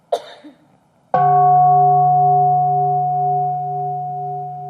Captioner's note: bell ringing